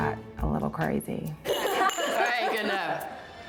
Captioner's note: daters laughing